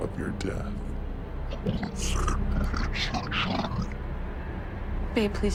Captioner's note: distorted voice grumbles